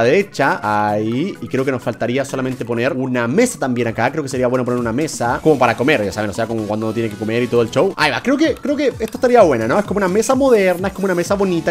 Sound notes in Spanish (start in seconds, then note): none